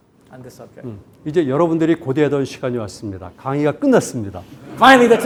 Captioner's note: speaking in Korean